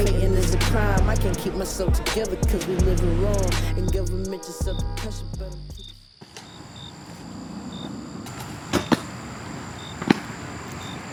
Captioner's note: customers chattering; hiphop music; crickets chirping